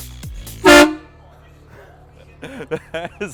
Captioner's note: horn blowing